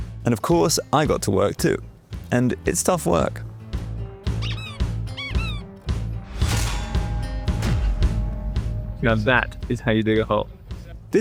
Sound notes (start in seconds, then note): 4.3 hoe squeaking; 5.1 hoe clanging and thudding